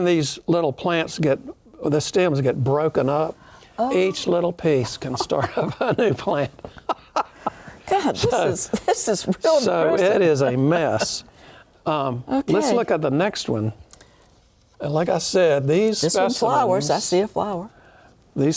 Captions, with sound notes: when these little plants get, the stems get broken up, each little piece can start up a new plant. (both laugh) >> Gosh! This is...real... So it is a mess. Let's look at the next one. And like I said, these. >> There's some flowers. I see a flower.